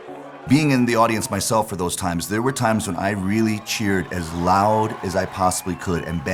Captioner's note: applause